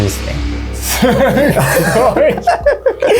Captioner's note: laughs